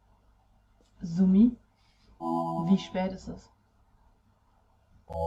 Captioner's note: Zoomy speaking in German